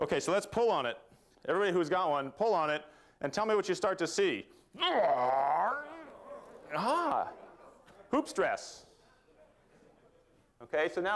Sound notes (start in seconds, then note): 4.8 grunting